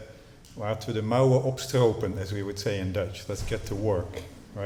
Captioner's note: speaking dutch